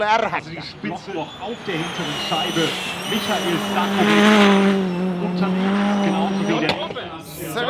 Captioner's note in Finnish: moottorin ääniä